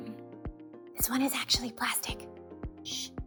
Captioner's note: whispers